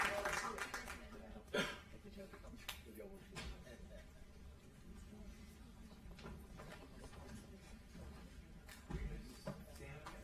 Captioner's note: applause